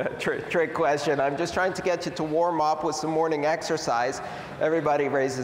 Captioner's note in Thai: หัวเราะ